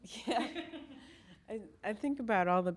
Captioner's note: laughs